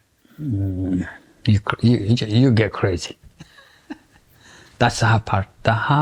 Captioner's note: laughs